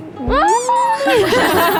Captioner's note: shriek